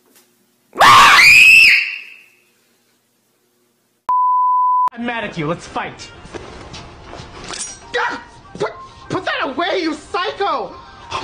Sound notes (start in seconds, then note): 4.1 TV Color Bars Sound Effect